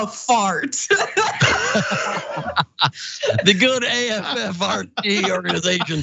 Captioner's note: laugh